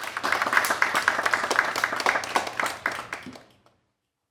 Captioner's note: people clapping